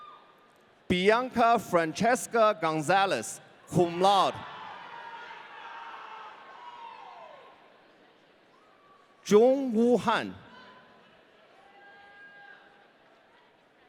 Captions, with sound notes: Bianca Francesca Gonzalez, cum laude. (audience cheering) Jong Woo Han. (audience cheering)